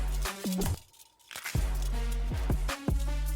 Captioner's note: bone snapping